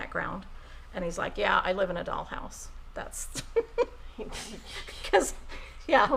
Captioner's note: laughing